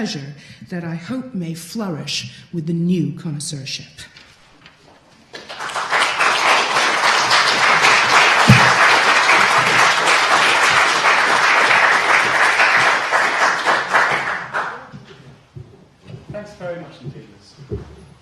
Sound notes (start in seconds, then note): 5.3 applause